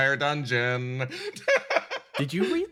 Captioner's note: laugh